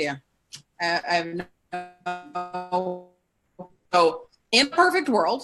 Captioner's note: audio distorts